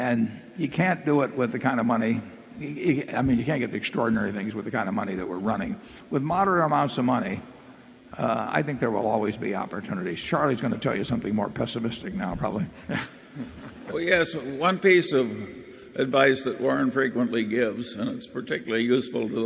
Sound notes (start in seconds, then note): 12.8 laughter